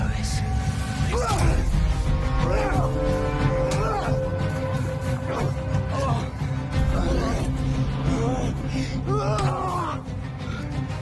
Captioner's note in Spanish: Jadeos y exclamaciones